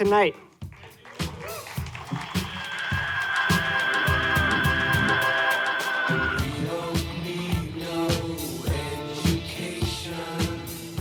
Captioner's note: applause